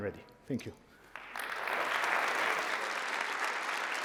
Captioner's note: applause